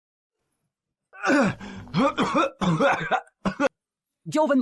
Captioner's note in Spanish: Cof, cof, cof, cof